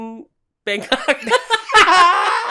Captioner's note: laughter; laughs